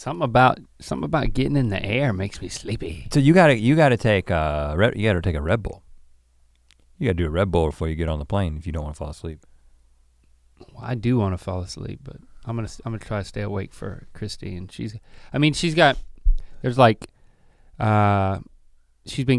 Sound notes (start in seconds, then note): none